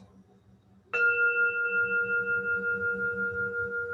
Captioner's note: bell rings